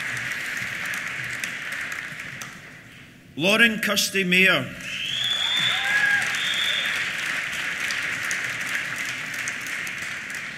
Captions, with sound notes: Lauren Kirsty Mayer. (CHEERS AND WHISTLES) (APPLAUSE)